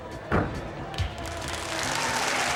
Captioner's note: applause